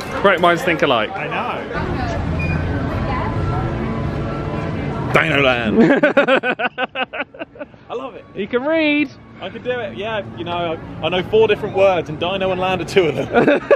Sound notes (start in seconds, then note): 5.7 laughing